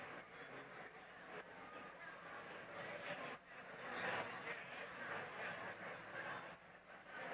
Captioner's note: chatter continues